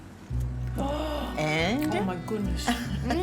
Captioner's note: gasps